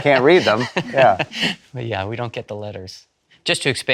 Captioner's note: laughs